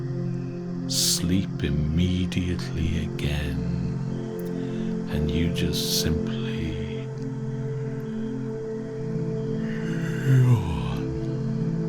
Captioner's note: yawn